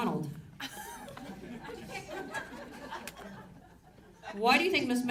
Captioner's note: audience laughs